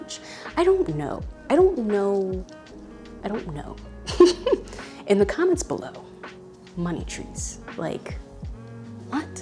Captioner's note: laughs